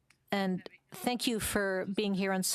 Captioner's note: speaking French